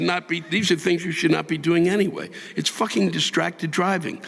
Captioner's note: audience laughing